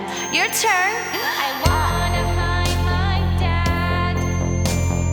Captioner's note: inhales - interrupted